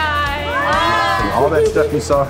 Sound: all cheering

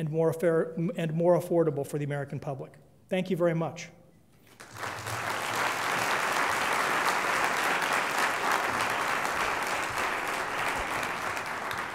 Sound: applause

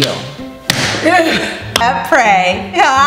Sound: upbeat music; laughs

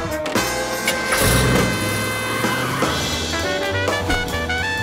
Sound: engine roars

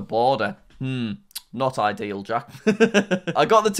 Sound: laughs

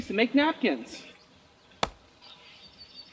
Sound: ax chop

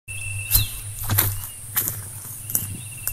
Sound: footsteps

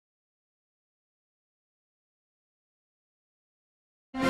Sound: silence; orchestral music plays

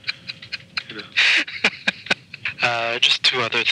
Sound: laughing

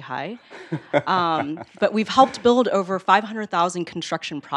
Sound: laugh

